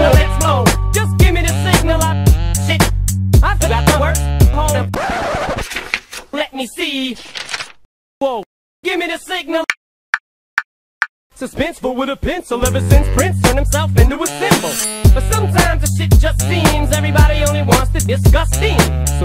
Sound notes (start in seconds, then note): 5.0 record scratch, page flipping; 7.0 continued page flipping